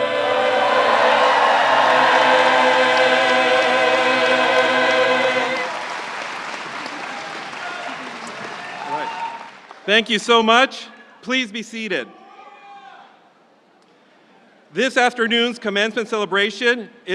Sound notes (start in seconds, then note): 2.2 audience applauding; 2.2 audience cheering